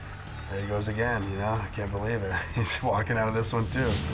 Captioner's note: chuckles